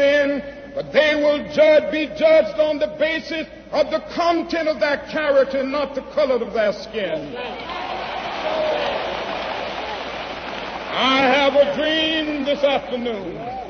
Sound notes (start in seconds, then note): 7.6 applause